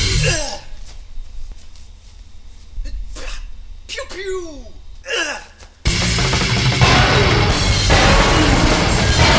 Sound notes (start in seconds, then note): 0.0 groaning; 5.0 groan